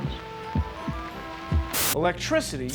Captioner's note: heart beating